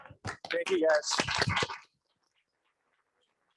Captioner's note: audience applauds